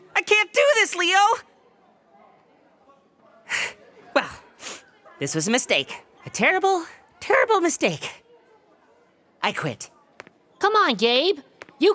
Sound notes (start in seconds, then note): 3.6 sighs